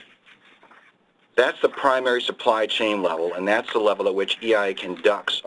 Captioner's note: pages turning